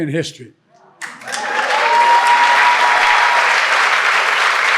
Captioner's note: audience clapping